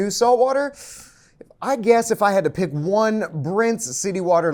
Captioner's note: gasps